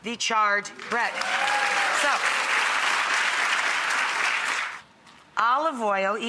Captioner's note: audience cheers and applauds